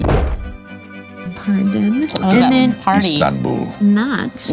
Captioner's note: deep voice